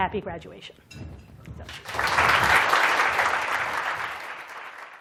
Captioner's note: applause